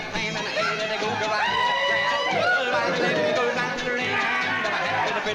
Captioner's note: cheering